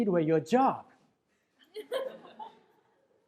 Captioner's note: laughter in crowd